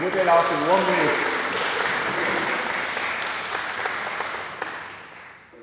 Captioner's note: audience applauds